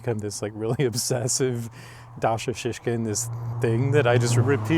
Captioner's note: chuckles